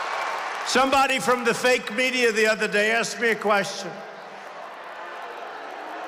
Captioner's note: applause